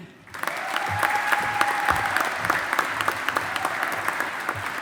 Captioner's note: audience applauding